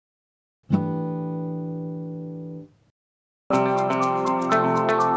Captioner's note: chime sounds; upbeat music